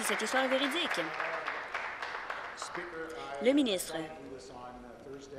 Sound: applause

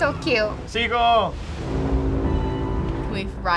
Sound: ship horn blaring

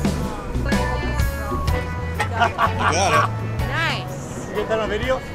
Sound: laughter

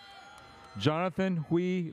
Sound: audience cheers

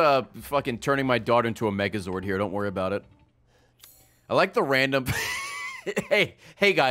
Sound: laughs

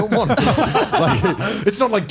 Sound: laughs

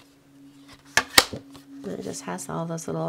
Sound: card stock slapping

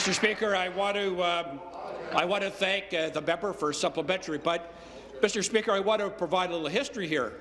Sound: applause

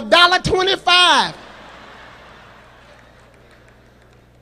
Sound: audience laughs

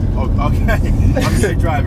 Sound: laughs

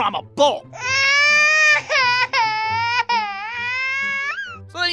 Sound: child crying

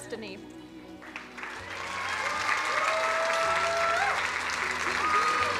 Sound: crowd cheering and applauding

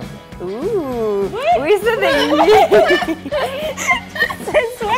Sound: all laughing and mumbling

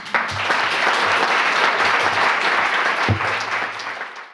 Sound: audience applauding

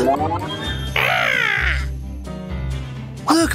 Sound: croaks

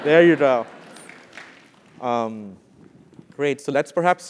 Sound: applause

